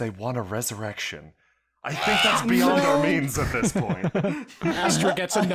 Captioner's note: Imp scream